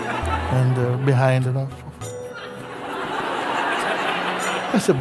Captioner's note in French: rires